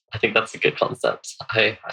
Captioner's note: laughs